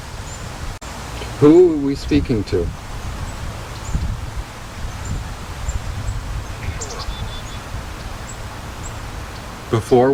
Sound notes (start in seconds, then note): 4.0 Wind Blowing, Birds Chirping, Ovilus Speaking